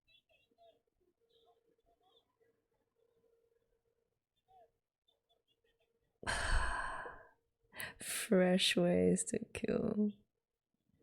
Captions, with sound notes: [exhales] Fresh ways to kill.